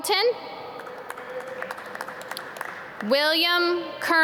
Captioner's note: audience clap